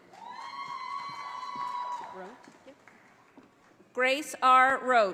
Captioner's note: audience applauding